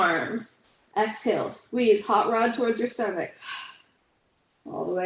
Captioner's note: exhales